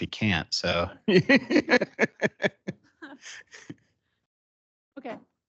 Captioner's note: laughing